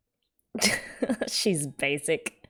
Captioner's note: laughs